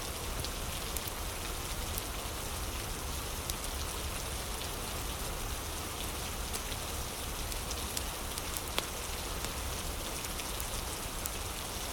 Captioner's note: fire crackling